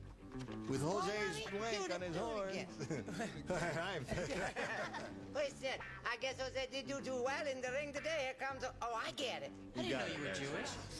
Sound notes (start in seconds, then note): 2.7 laughter; 4.4 spanish accent; 7.2 normal voice